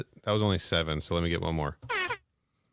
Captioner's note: airhorns sfx